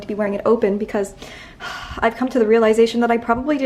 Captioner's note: sighs